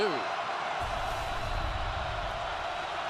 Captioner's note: crowd cheering